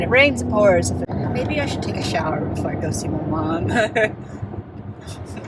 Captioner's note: laughs